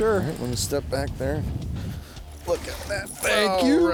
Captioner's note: voiceover